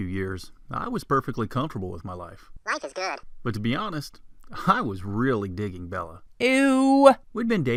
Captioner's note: funny voice; man's voice; man's voice